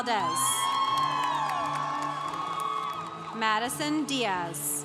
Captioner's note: congregation cheering